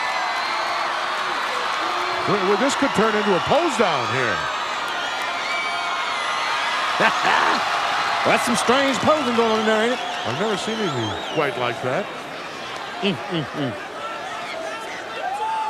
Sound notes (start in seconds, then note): 0.1 audience cheering; 4.6 audience cheering; 7.0 hillbilly chuckling; 15.5 audience cheering